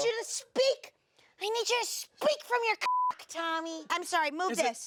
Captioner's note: beep